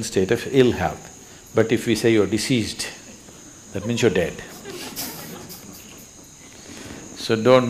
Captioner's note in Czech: Smích